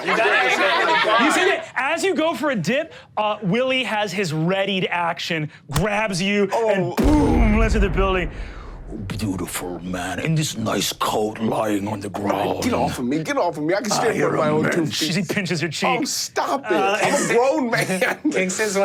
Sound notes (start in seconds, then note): 0.0 audience laughs; 7.0 explodes; 18.1 laughs